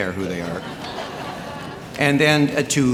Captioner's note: audience laughing